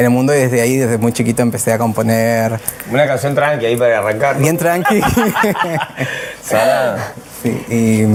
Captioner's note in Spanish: risas